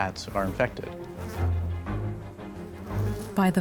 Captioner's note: flies buzzing